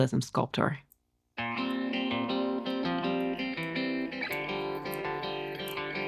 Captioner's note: gloves squeak; inspirational music rises